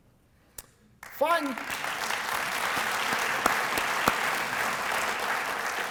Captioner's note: applause